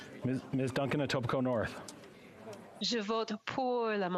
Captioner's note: speaking French